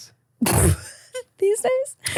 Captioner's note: laughing